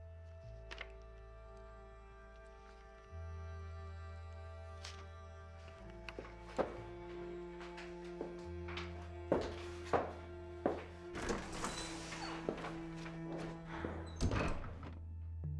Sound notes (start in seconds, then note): none